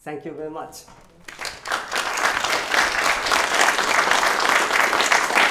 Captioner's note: applause